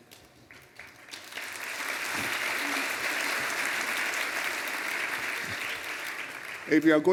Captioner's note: applause